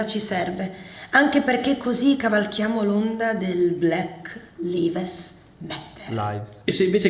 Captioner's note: mispronouncing